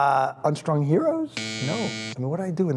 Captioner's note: buzzer buzzes